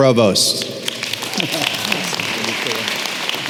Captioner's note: applause